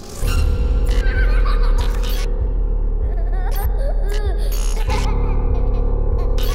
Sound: children laughing

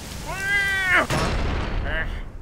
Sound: screams of fear

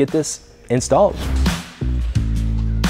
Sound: rock music; air whooshes

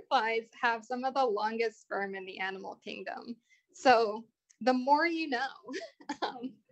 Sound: laughter

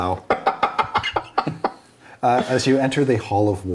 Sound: laughing

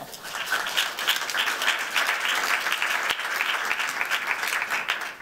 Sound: applause

